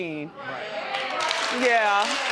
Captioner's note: audience cheering